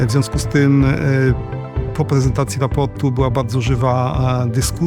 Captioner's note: speaking Polish